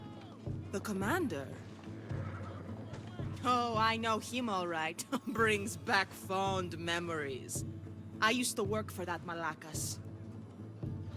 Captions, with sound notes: The commander!? Oh, I know him alright! (laugh) Brings back fond memories! I used to work for that malákas.